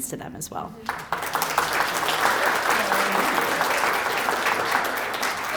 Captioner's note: applause